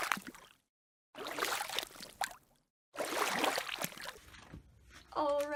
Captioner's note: splashing sounds